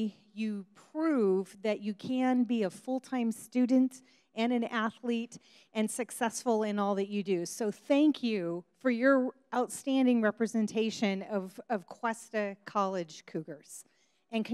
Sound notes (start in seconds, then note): none